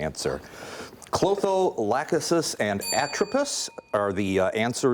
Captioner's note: ding